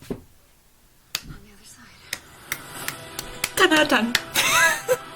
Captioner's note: more clapping for steve harrington